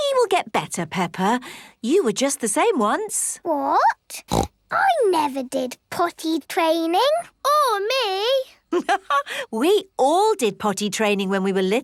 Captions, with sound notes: - He will get better, Peppa. You were just the same once. - What?! (snorts) I never did potty training! - Or me! (laughs) - We all did potty training